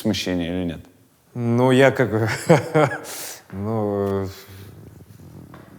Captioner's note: chuckles